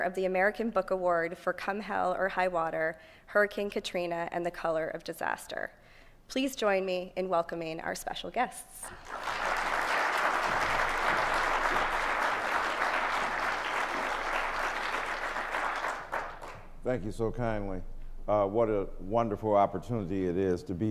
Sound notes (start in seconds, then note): 12.7 applause